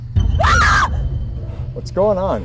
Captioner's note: Shelby screams